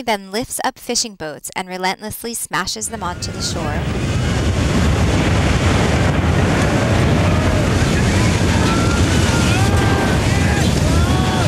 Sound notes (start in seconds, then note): 6.1 roar of waves, people shouting